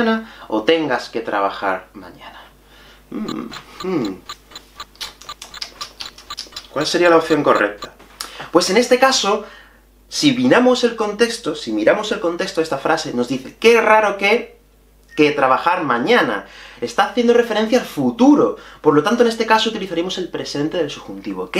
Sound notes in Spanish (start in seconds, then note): 3.2 Tic tac tic tac